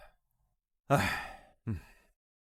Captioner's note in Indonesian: Menghela napas